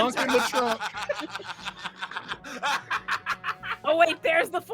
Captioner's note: laughing